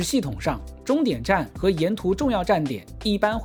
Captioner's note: korean and English